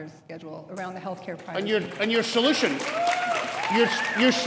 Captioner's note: audience applauds